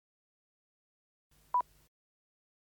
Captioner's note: beeps